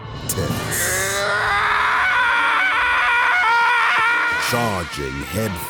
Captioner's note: screaming